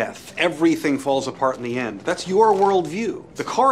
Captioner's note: none